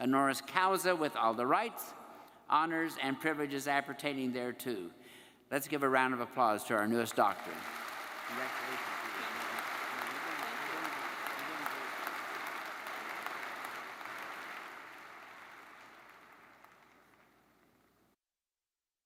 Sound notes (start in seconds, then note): 9.8 audience applauds